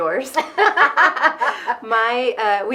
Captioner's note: both laughing